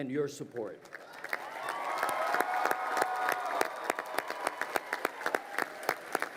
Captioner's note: crowd cheering and applauding